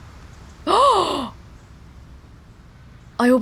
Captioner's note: gasps